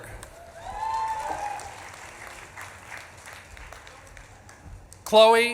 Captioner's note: audience claps and cheers